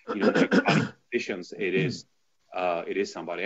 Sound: clears throat

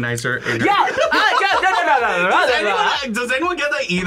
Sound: laughs; speaks gibberish

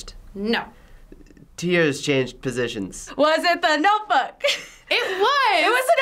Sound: chuckles

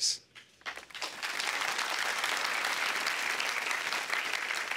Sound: applause

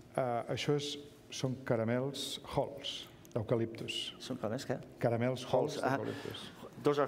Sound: speaking catalan

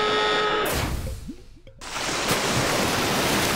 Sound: water rushes

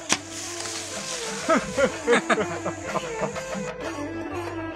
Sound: laughing

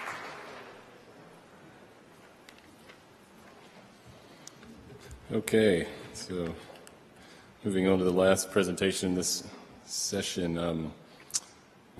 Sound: applause

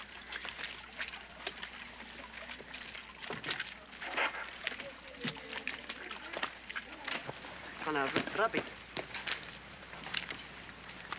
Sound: sloshing

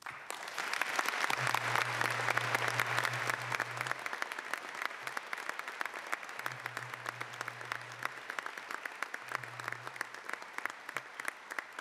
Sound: applause

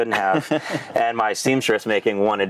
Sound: laughing

